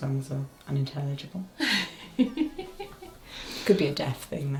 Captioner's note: giggles